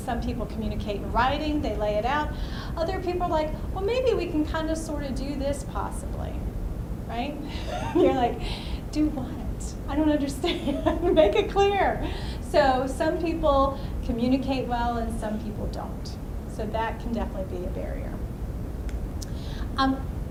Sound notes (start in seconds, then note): 7.5 laughs; 10.5 laughs